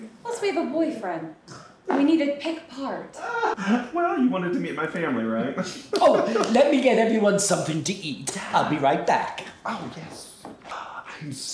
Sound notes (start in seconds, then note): 3.1 Glenda laughs; 5.7 laughs